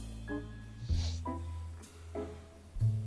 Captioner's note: sniffles